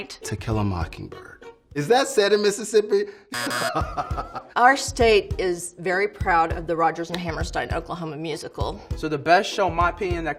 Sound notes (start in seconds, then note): 3.3 buzzer sounds; 3.3 laughing